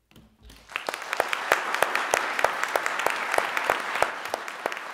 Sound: audience clapping

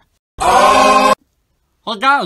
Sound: intense unholy scream

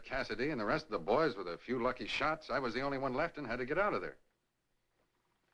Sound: none

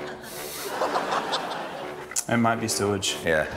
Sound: laughter; exhales

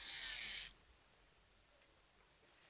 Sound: shaver Stops

